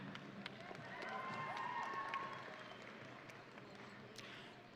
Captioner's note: audience cheering